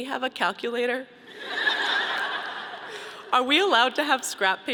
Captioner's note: audience laughing